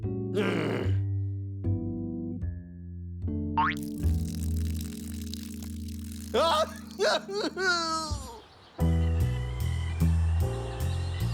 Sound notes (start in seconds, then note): 0.3 groans; 6.3 crying